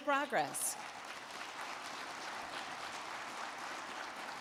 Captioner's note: crowd clapping